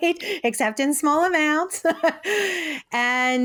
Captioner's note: chuckles